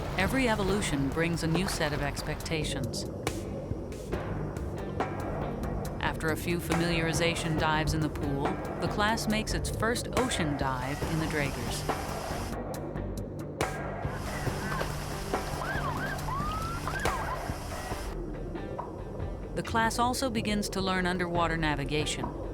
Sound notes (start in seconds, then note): 3.0 tense music; 11.9 tense music; 15.6 siren blaring